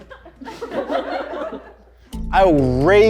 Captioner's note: audience laughs